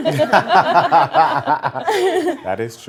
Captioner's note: everyone laughs